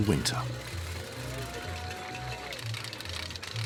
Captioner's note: crowd chattering